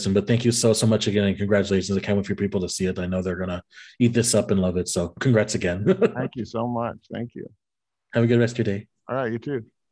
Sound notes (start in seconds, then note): 5.8 laughs